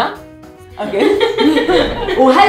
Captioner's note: laughing